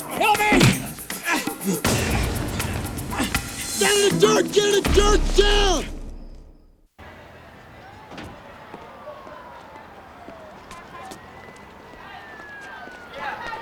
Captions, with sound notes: Help me! (men grunting) Get down in the dirt, down in the dirt now! (sirens wailing)